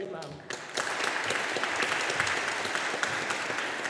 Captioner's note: audience applauding